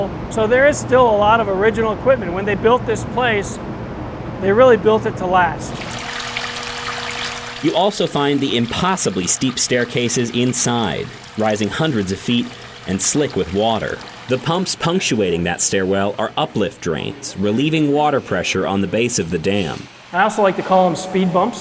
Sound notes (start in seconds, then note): 5.7 water trickling